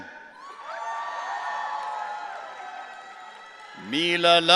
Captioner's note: audience cheering